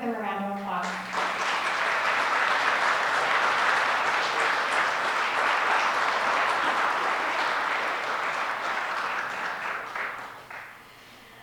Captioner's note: audience clapping